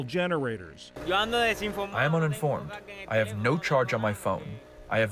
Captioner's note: through translator